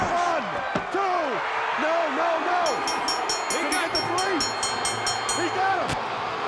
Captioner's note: bell rings